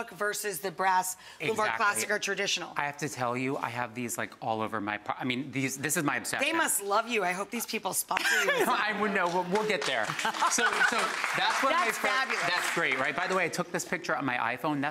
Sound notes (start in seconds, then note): 8.1 laughs; 10.7 audience applauds